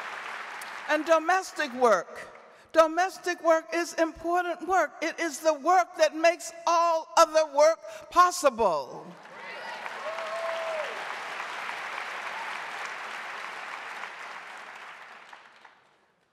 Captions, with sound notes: And domestic work is important work. It is the work that makes all other work possible. (audience applauding)